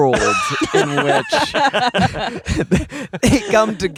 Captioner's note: everyone laughing